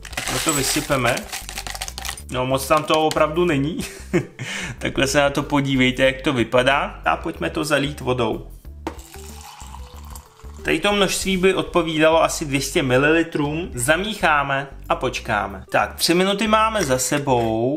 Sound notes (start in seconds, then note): 3.8 laughter